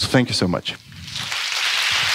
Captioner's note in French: Applaudissements